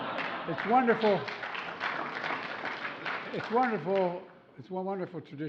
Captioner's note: laughter; applause